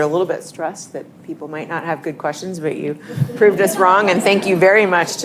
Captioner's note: laughter